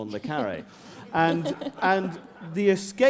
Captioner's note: laughter